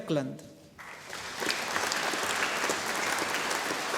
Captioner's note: audience applauding